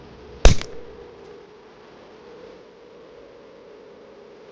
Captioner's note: wood cracking